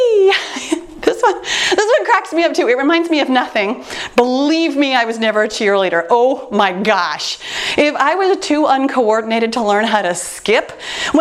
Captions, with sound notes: (chuckles)this one cracks me up to it reminds me of nothing. Believe me I was never a cheerleader. Oh my gosh, If I were the too uncoordinated to learn how to skip